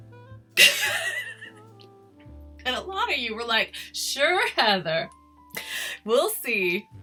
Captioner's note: laughs